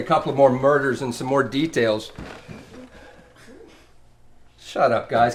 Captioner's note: Maria mumbles softly